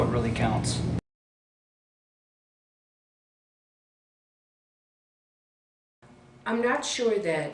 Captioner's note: silence